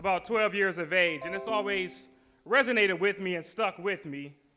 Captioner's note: windows jingle chimes